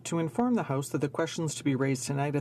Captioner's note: speaking French